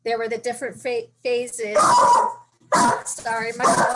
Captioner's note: dog barking